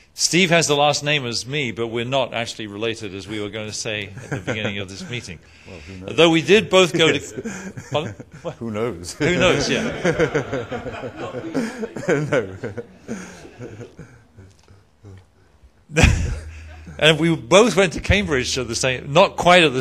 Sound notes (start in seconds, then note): 7.9 laughs; 9.1 laughter